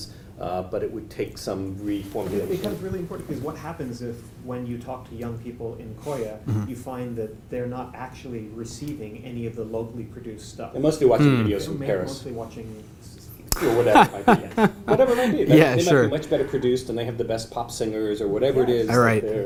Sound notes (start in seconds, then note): 13.5 laugh